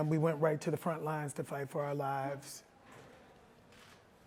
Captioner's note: none